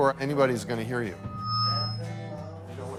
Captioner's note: microphone feedback